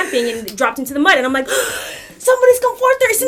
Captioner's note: gasps